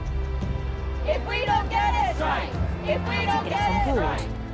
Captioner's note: chanting